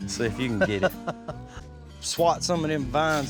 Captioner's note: chuckles